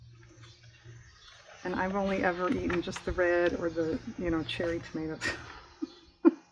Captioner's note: laughs